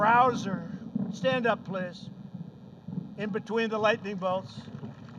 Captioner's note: applause